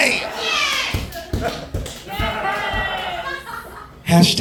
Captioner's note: audience applauding